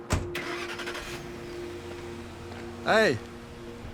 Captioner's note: engine revs